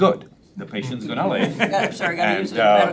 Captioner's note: members laughs